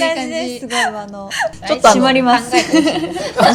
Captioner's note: laughs